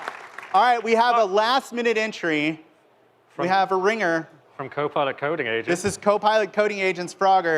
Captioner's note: applause